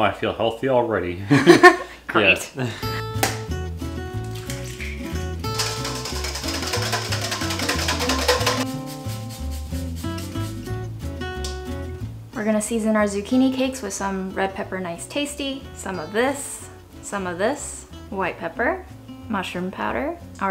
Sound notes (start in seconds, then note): 2.2 laughs; 2.8 soft beat music